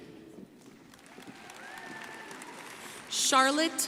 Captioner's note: crowd applauding